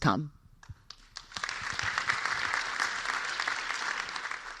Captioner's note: applause